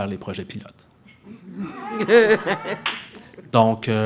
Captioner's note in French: rires